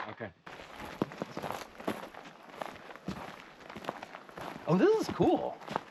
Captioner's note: footsteps crunching